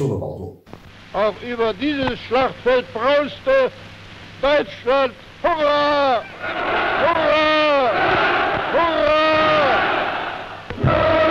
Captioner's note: German speech